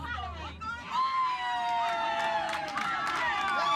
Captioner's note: cheering